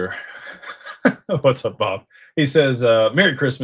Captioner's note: laughter